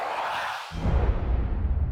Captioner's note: swoosh